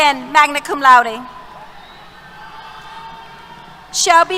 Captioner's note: applause